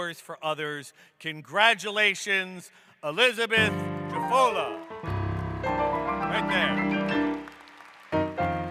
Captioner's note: applause